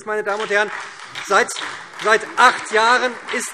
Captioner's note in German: Beifall SPD und Freie Demokraten